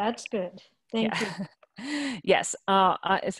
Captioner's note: laughing